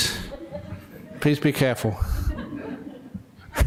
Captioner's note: laughter